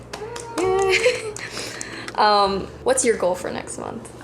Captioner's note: muted cheers